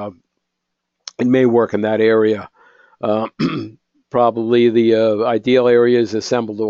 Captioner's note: cough